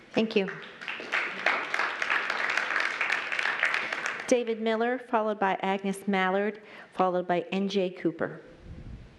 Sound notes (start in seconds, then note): 0.3 applause